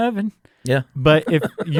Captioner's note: laughs